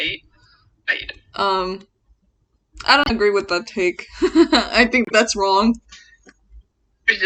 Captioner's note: nervous laughter